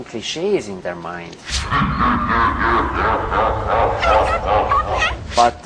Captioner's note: evil laugh